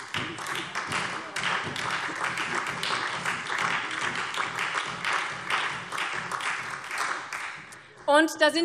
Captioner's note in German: Beifall SPD, vereinzelt CDU, BÜNDNIS 90/DIE GRÜNEN und DIE LINKE